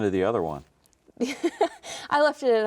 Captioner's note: laughing